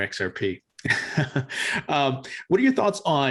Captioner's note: laughs